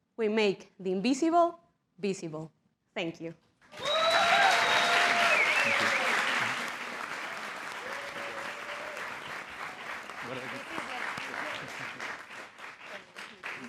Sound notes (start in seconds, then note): 3.5 applause; 7.5 applause